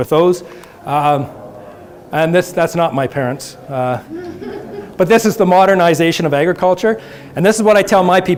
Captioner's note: audience laughter